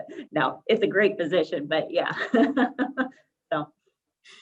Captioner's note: laughs